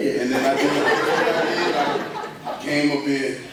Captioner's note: laughter